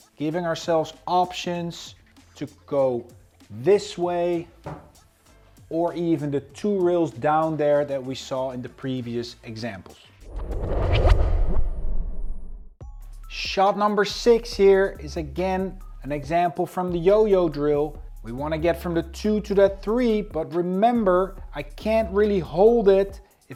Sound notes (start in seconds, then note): 10.2 transition whooshes; 13.0 upbeat music